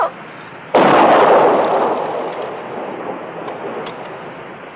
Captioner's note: gun firing